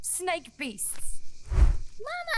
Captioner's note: whoosh